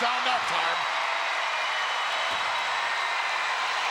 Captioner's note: crowd cheering